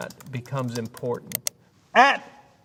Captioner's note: mouse clicking